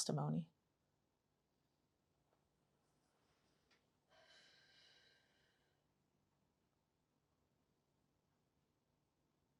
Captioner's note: pauses 10 seconds